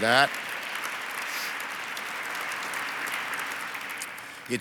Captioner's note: audience applauds